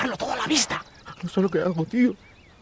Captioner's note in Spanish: llora